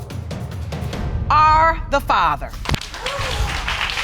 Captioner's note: audience applauding